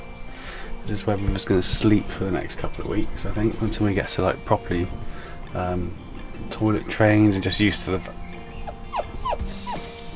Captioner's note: River starts whining